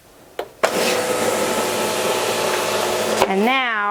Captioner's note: machine whirring